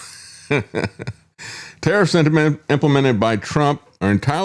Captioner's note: laughs